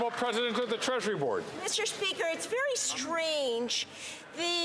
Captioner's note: some Applause